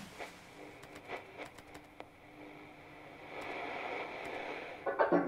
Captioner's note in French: bruits parasites; son d'extinction de l'enceinte